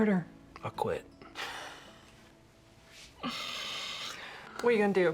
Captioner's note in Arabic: يضحك